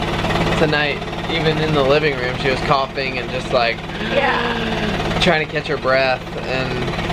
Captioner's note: gasping